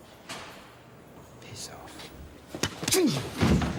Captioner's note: murmurs